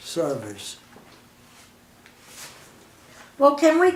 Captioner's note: silence